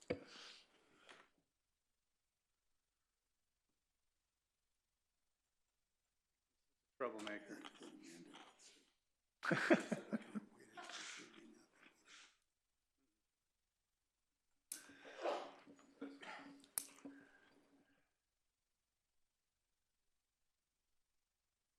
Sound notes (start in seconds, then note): 5.9 laughter